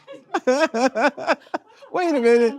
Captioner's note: laughing